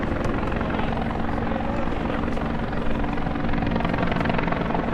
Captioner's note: helicopter whirs